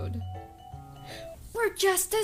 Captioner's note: gasp